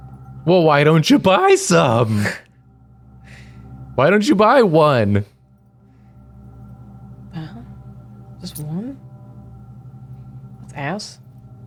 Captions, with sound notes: Well, why don't you buy some? Why don't you buy one? (quietly) Just one? Ass?